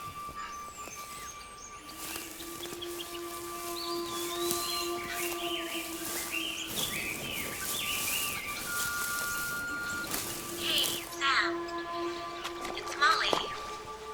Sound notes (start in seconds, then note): 0.8 pensive music; 8.3 answering machine beeping